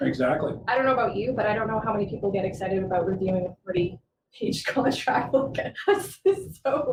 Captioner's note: laughing